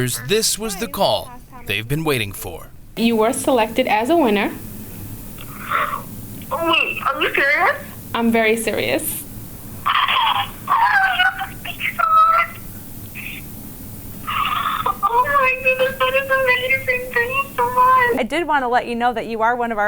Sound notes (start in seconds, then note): 5.4 gasps